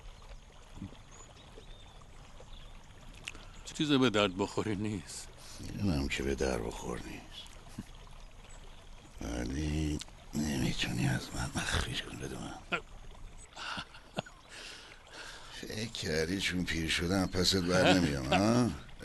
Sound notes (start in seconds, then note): 13.6 laughter